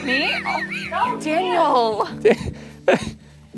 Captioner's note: laughter